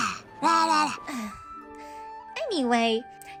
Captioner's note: sigh